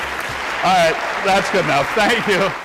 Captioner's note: theme music plays; audience applause